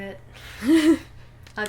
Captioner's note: laughter